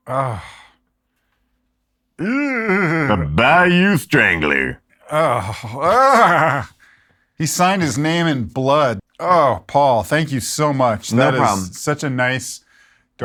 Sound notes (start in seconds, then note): 2.2 groans; 5.0 groaning